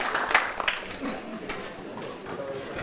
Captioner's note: applause